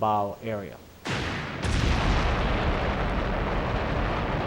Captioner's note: explosions burst